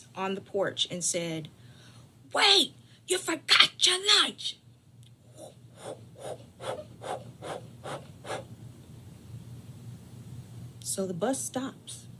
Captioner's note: makes whooshing sound